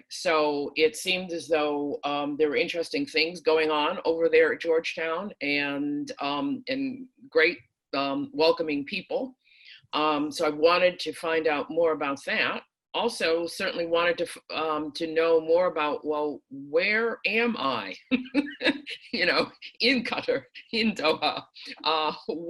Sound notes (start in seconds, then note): 18.0 laughs